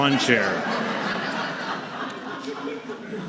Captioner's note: raucous laughter